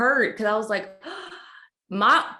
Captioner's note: draws breath